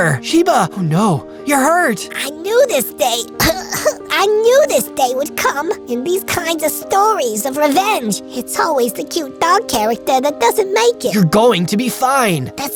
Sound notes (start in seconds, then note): 3.2 cough cough